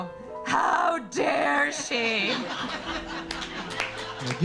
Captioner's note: audience laughing; audience clapping